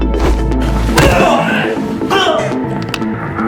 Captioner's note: Thug screaming; eyeballs squish; thug groans; Raquel grunts; bones crunching; both groaning